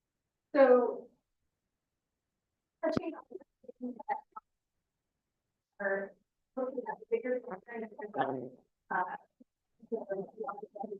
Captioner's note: audio interference